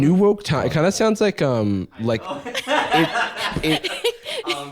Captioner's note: laughs; baby voice